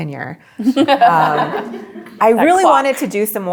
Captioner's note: group laughs